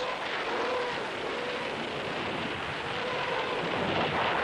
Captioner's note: rockets screaming